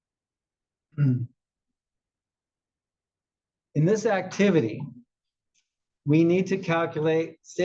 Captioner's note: cough